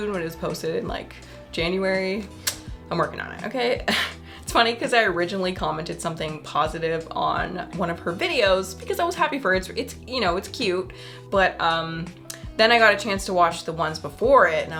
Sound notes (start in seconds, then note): 4.1 laughs